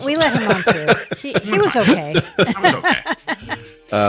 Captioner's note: laughing; show theme music